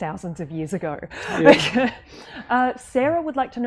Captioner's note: laughs